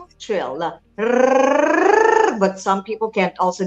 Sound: tongue trilling

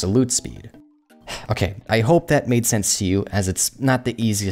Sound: sigh

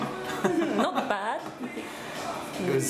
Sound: laughing

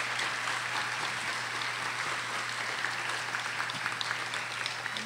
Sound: audience applauding

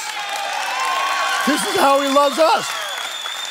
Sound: congregation cheering and applauding

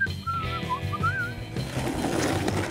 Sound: whistles melodically

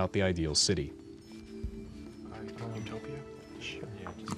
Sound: whispering

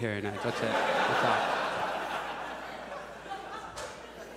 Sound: audience laughs

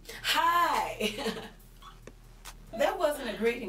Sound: Crystal chuckles

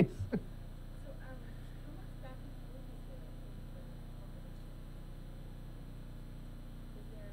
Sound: laughing; speaking softly

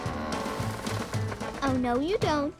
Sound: grunts

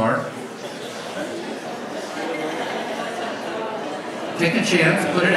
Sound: audience chatters

